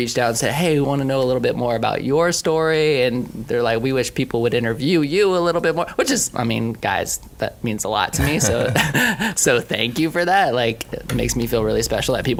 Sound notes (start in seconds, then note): 8.1 laughing